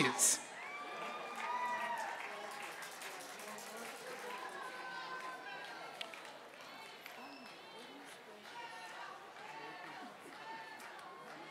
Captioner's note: applause